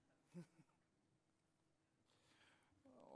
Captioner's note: laughing